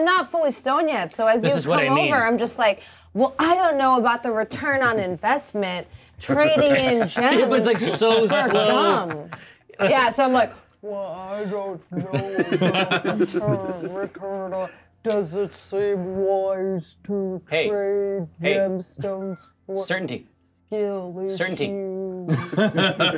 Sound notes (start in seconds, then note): 8.4 co-hosts laughing; 22.2 co-hosts laughing